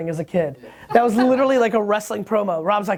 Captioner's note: laughs